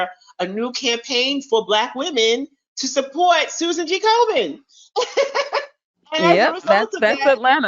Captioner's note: laughs